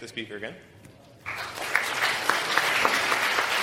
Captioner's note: applause